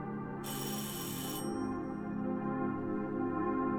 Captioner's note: bell rings